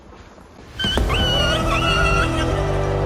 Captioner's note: intro music; whimpering; intro music